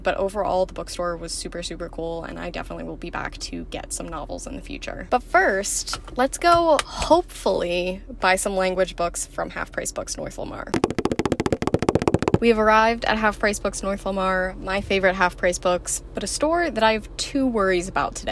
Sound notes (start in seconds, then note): 10.8 feet Running Sound